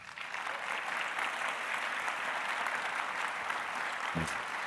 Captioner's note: audience applauding